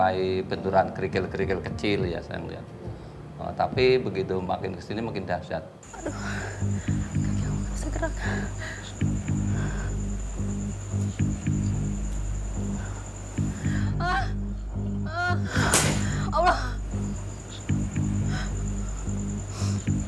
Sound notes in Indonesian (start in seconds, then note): 15.6 Suara benda jatuh